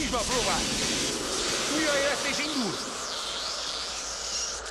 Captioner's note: electricity crackling